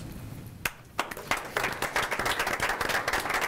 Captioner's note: clapping